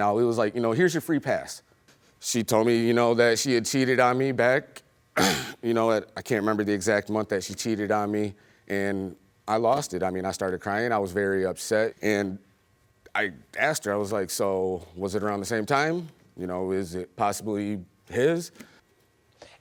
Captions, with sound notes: It was like, you know, here's your free pass. She told me, you know, that she had cheated on me back. (CLEARS THROAT) You know, I can't remember the exact month that she cheated on me. And I lost it, I mean, I started crying. I was very upset and I asked her, I was like so was it around the same time? You know, is it possibly his?